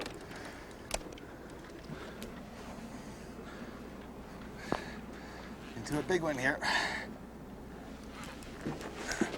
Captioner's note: panting